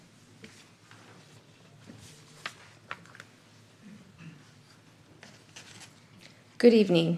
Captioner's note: clears throat